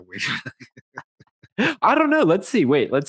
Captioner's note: chuckling